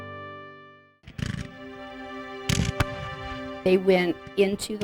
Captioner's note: guns firing